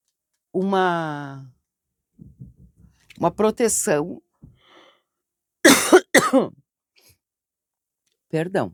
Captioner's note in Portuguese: tosse